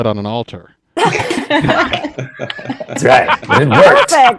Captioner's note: all laughing